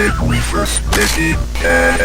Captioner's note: neck snaps; laughs